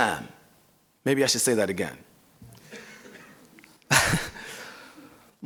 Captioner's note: laughs